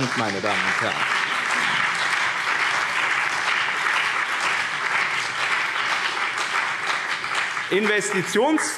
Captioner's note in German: Beifall BÜNDNIS 90/DIE GRÜNEN und CDU